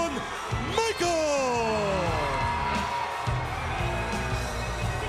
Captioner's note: audience cheering